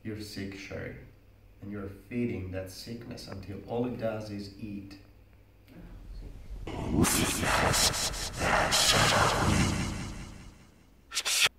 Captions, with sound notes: You're sick, Sherry, and you're feeding that sickness until all it does is eat. (distorted voice in foreign language)